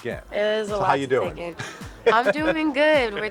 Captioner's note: chuckles